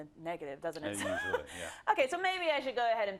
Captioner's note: laugh